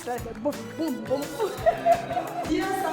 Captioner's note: laughter